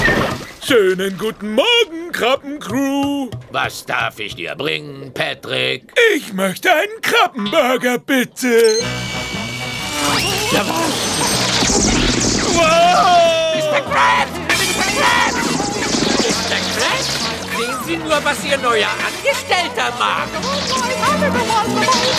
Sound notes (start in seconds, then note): 10.0 <i> crashing</i>